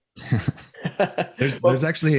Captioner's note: both chuckling